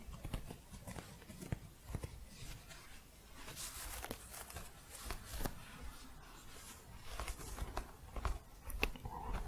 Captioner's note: scratching